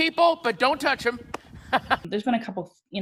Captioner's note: laughs